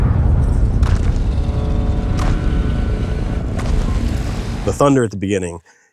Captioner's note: footsteps rumbling